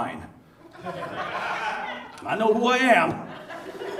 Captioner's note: audience laughs